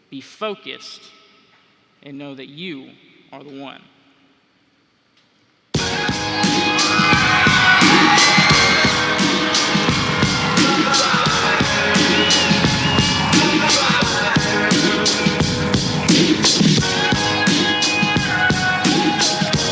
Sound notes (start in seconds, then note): 5.8 upbeat music; 7.1 cheering